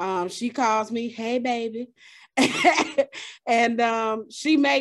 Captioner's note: chuckles